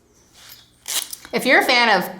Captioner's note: zipper